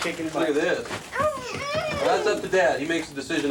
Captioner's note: whining